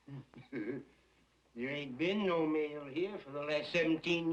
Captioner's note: laughs nervously